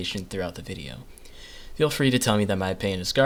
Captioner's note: inhale